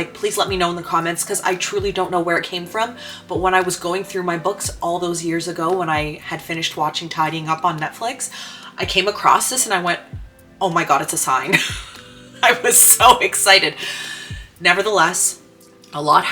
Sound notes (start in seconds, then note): 11.5 laughs